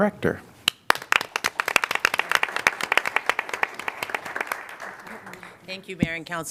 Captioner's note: applause